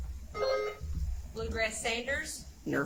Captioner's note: buzzer chimes